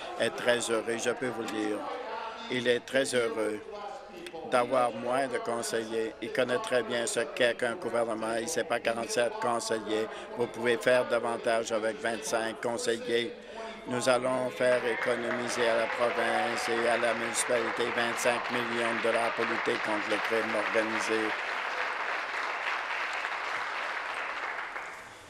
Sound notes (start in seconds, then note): 18.7 applause; 24.3 applause